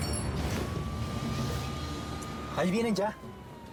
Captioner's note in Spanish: sonido de sirenas